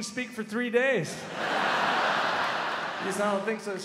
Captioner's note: crowd laughs